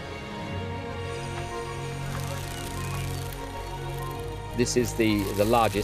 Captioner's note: insects chirping, buzzing